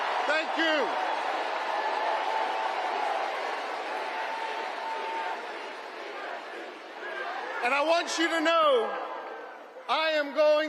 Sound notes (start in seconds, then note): 0.0 cheering and applause